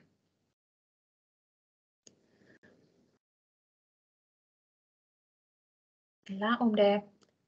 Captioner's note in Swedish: Tystnad